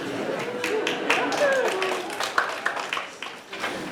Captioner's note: applause